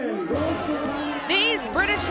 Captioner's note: crowd cheering